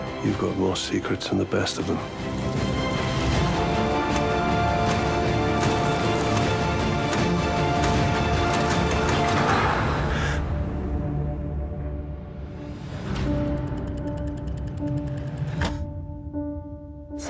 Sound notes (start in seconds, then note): 4.8 dramatic music; 10.5 gasping